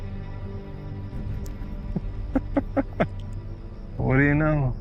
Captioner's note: chuckling